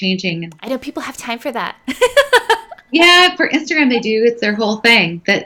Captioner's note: laughing